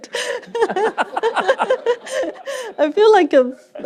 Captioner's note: laughter